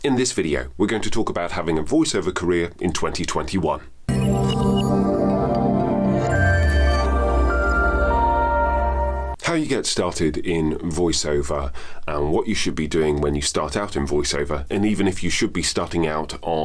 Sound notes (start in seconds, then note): 4.1 logo chiming